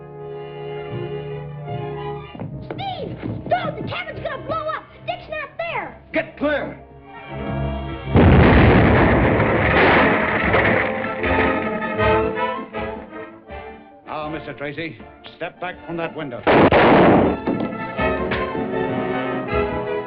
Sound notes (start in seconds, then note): 8.1 explosion; 16.4 gunshots